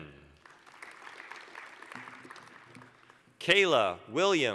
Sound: applause

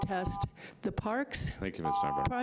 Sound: buzzer rings; buzzer rings

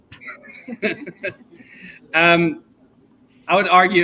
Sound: chuckles

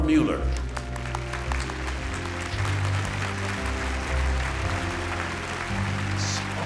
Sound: applause

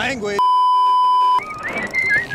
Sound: beeeeeep

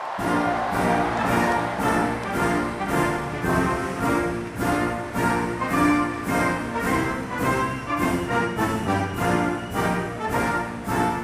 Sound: applause

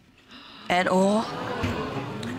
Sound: audience exclaims

